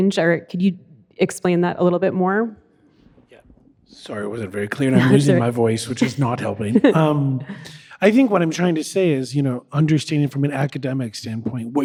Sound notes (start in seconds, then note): 4.8 chuckles; 5.8 laughs